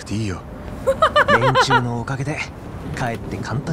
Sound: chuckles

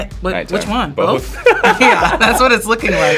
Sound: both laughing

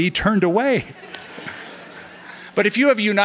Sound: laughter

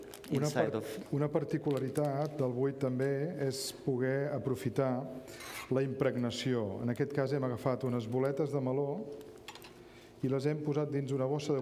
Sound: speaking catalan

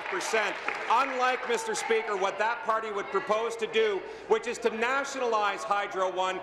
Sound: applause

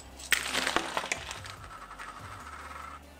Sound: components clatter; upbeat background music

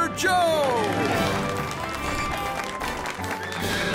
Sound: clapping

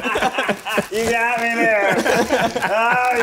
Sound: laughing

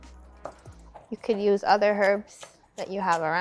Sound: knife slicing parsley

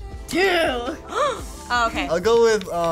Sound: gasps

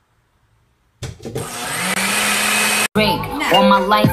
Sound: blender sounds

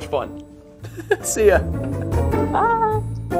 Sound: laughing

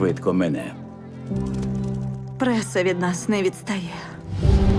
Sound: shutters clicking

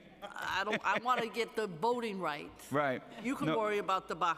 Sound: laughter

